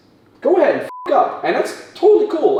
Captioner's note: beep